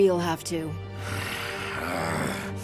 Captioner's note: groaning